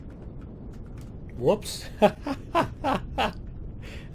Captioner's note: laughs